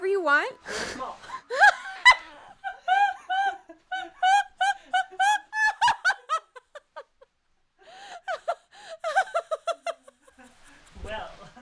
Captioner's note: uncontrollable Laughter